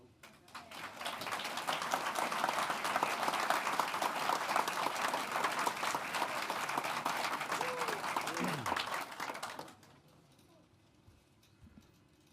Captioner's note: applause